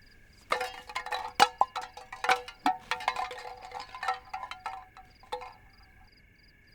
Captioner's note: tin cans rattle